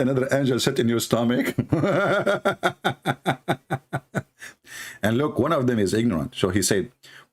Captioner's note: Ketawa